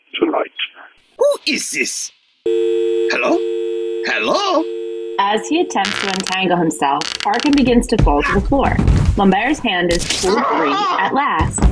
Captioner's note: dial tone sounds